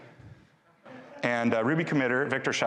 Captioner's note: audience laughing